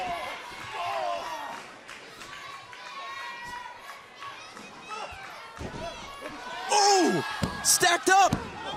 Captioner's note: crowd chatter